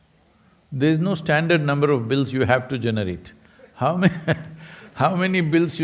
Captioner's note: laughs